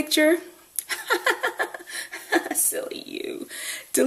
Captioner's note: laughs